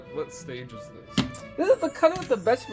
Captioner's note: angrily slams sweet potato